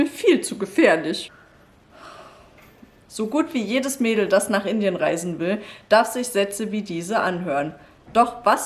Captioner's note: sigh